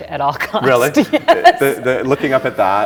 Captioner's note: laughing